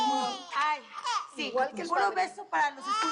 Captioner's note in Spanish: Llanto del bebé